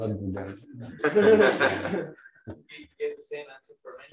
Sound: laughter

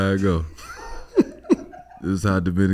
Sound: laughs

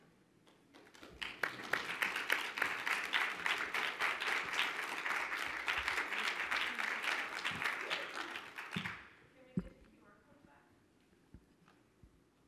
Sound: applause

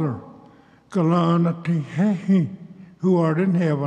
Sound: speaks Cherokee

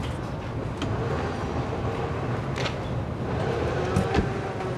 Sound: cars whooshing

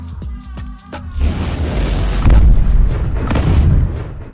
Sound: thunder sound

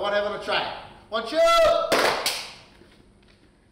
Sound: claps

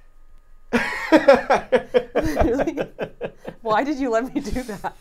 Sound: laughing

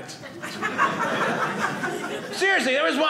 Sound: audience laughing

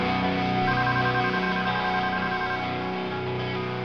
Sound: phone ringing

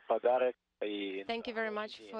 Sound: foreign language

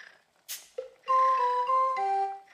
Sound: snoring

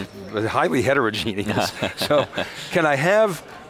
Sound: laughing

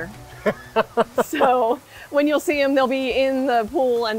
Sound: laughs

